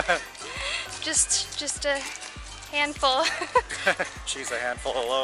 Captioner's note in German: Gelächter; Gelächter